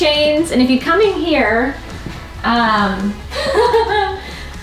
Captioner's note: laughing